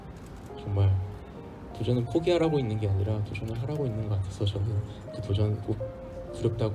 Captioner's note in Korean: none